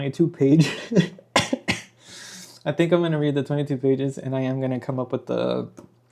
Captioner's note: laughter